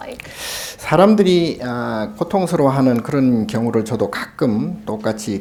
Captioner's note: speaking Korean